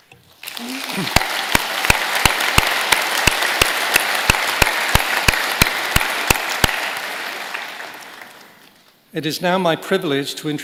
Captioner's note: applause